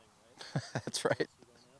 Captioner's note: laughs